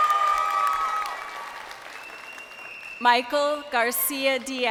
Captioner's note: crowd cheering